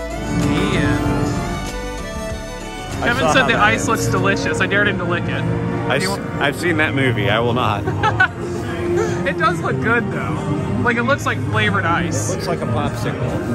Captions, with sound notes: The end! Kevin said the ice looks delicious. I dared him to lick it. I've seen that movie. I will not! (Laughs) It does look good, though! Like, it looks like flavored ice. It looks like a Popsicle.